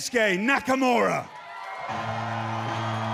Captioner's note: cheers and applause